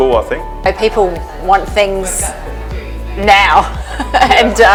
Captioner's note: laughs